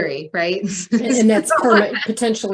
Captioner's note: laughs